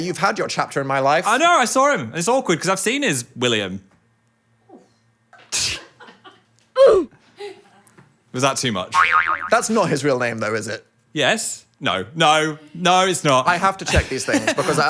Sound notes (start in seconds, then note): 5.8 crew members laugh